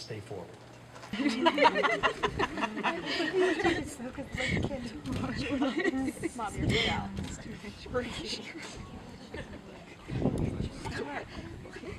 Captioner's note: lots of giggles because the candles won't stay lit